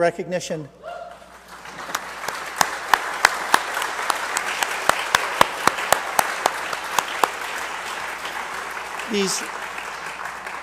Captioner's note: applause